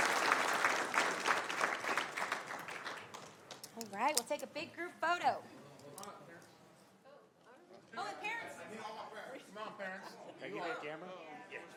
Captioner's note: applause